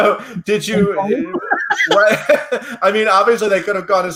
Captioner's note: laughs